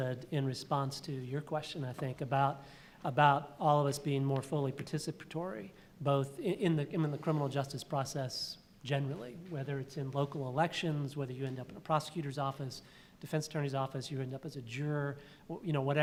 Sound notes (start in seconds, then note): none